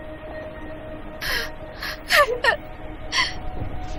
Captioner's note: sobs